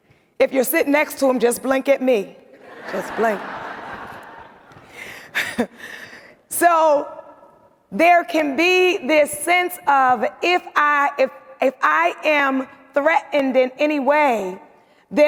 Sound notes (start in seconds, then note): 2.6 audience laughs; 5.0 laughs